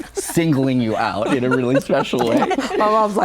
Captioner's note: guests laugh